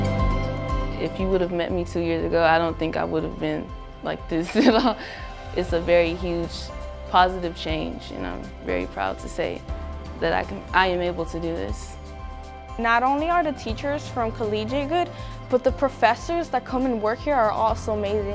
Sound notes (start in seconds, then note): 4.5 chuckles